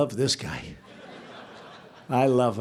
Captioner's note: laughter